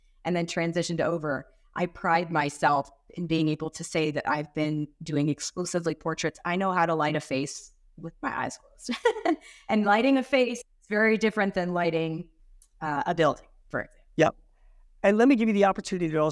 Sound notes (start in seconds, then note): 8.9 chuckling